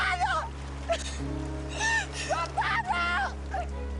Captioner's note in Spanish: Sollozos